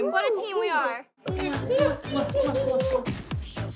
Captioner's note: smooching